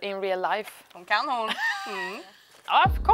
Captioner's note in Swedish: Skratt